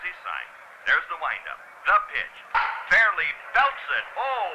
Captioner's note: ball hits